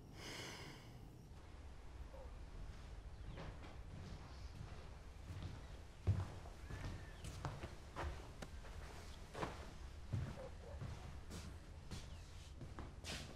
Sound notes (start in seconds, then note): 0.1 woman exhales deeply; 2.0 dogs barking; 2.0 birds chirping